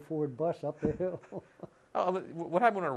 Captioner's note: laughter